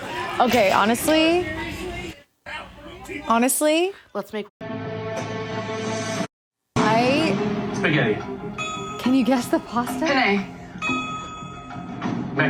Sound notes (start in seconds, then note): 4.7 intense music; 8.5 bell dings